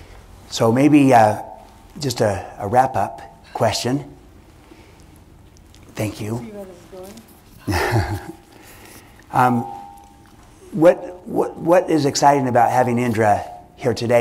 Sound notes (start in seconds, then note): 7.6 laughter